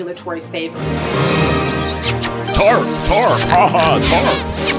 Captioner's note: man speaking in background